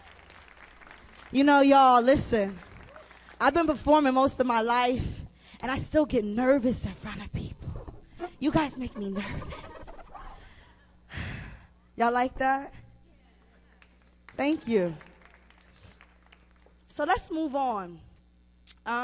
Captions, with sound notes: You know, y'all, listen. I've been performing most of my life. And I still get nervous in front of people. You guys make me nervous. (sighs) Y'all like that? (audience applauds) Thank you. So, let's move on.